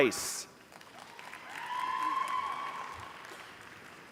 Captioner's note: applause